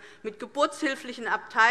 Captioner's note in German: none